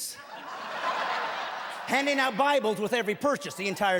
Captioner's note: laughing